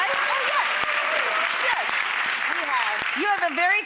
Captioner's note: cheers